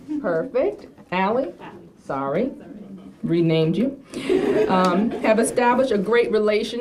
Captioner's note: laughter